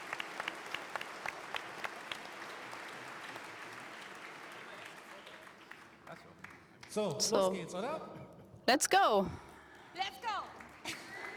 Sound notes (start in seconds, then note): 8.7 applause